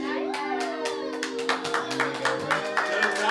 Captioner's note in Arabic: تصفيق، تشجيع